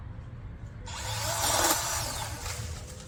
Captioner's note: chainsaw revs